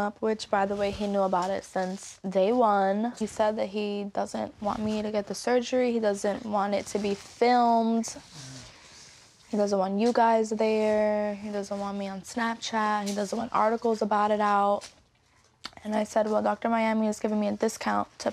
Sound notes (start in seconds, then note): none